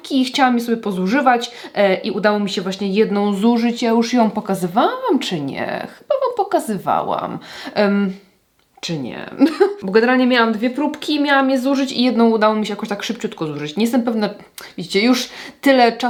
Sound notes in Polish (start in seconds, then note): 9.4 śmiech